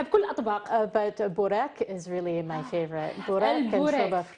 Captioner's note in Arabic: تتحدث الإنجليزية